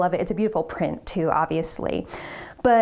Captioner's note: none